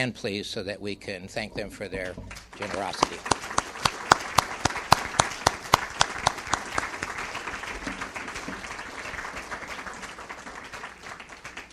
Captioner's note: clapping